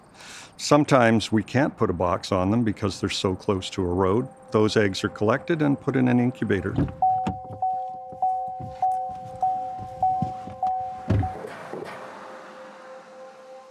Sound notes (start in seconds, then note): 6.4 door opens, Car chime; 10.6 door closes, truck passes